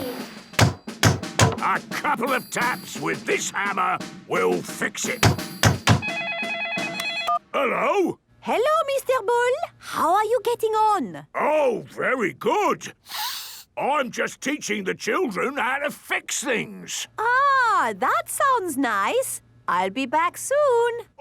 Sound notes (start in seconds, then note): 5.3 phone ringing; 13.0 sniffs